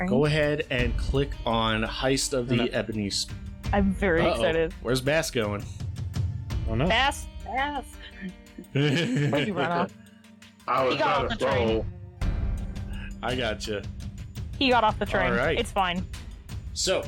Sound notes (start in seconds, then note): 8.5 chuckles